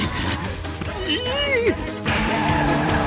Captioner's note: cries in japanese